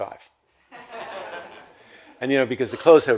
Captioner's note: audience laughs